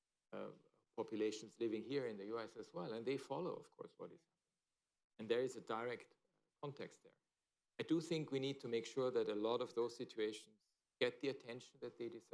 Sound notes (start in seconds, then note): 5.2 off mic